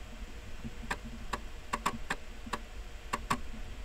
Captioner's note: floppy disk accesses